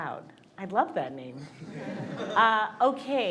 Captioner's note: audience laughs